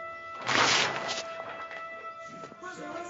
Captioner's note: ripping